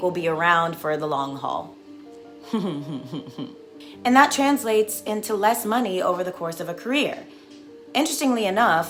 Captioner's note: laughs